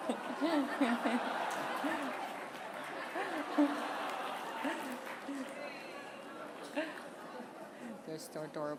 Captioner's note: laughter